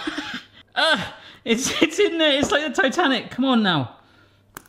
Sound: laughing; guffawing

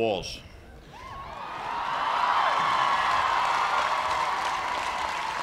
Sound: cheers and applause

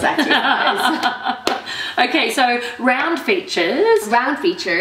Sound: laughing

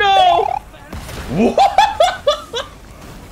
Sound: Do-si-do inflicted cackle

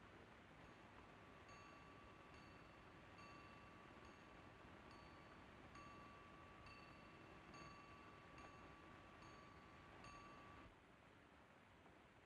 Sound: bell ringing faintly

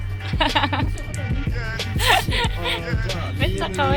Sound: laughs

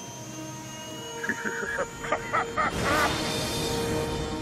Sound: laughing

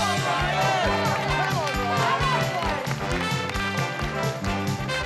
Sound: audience cheering; upbeat music

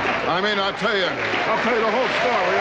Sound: audience laughing; audience cheering

